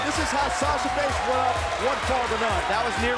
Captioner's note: bell ringing